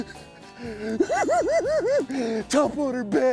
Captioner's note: cackles